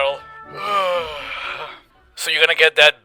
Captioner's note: yawn